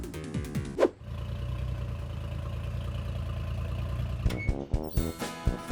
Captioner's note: electric music; engine rumbling; swoosh; circus music